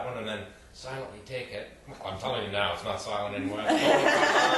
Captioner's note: group laughs again